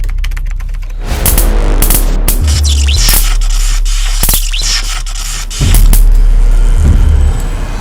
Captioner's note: dramatic music; electricity pops